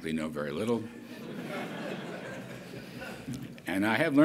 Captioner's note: laughter